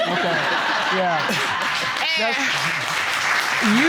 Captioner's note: laughter